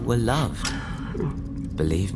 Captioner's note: sobbing continues